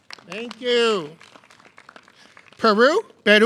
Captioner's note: clapping